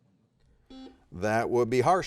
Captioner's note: buzzer beeping